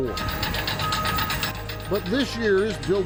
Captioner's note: bulldozer beeping